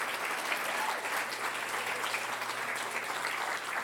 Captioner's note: applause